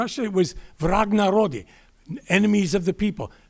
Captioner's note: speaking Russian